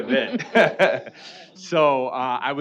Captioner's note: laughing